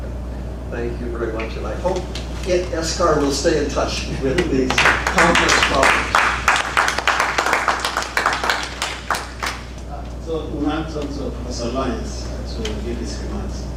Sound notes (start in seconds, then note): 4.6 applause